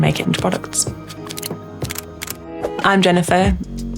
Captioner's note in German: Kamera knipst